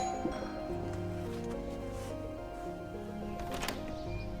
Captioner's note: doorbell rings; creaks; door clatters